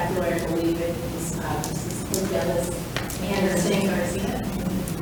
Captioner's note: speaks distantly